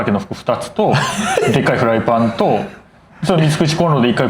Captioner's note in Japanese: 笑い